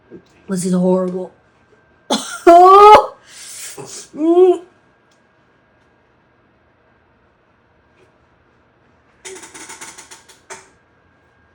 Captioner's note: coughs